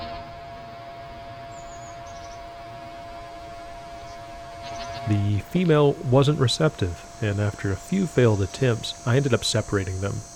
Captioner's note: sound of spider courtship